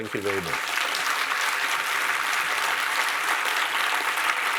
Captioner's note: audience applauding